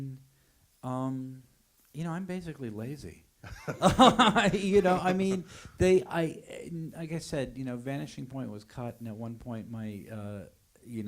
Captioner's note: laughter